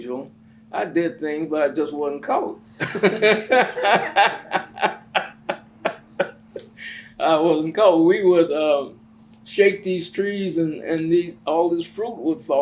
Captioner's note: laughs